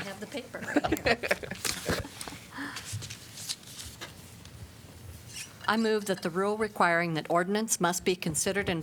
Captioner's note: laughter